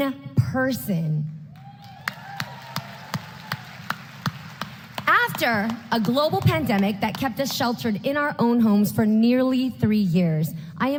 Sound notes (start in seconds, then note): 1.5 applause